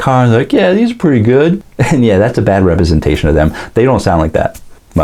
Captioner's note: macho accent